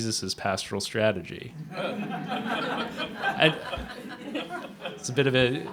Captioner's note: laughter